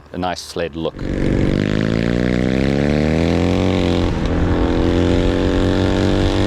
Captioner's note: engine roars